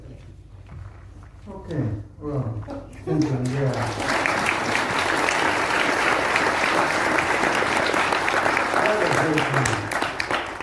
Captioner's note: aplause